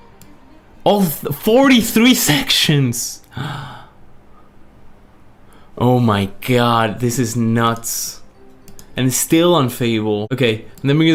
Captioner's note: gasps